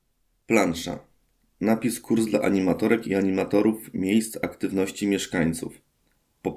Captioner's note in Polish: Głos męski z offu, audiodeskrypcja planszy